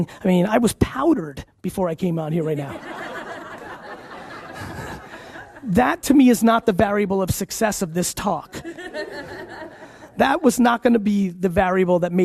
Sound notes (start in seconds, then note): 2.6 audience laughs